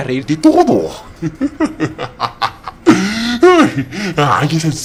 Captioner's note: laugh